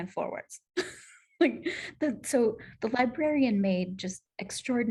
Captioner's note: laughter